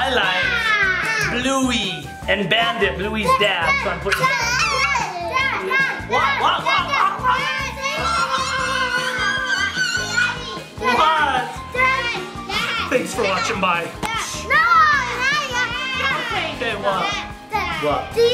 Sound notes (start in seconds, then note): 7.8 all screaming